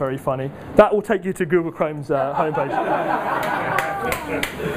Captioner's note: audience laughs